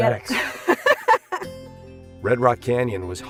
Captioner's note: laughter